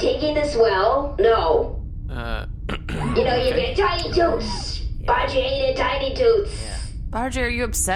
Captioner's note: Pleck clears his throat